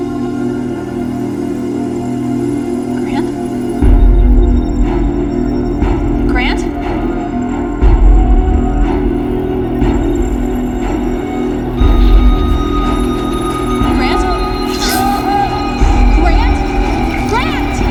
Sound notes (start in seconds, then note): 0.3 tense dramatic music; 8.2 tense dramatic music continues; 14.2 wires buzzing; 14.6 Vanessa gasps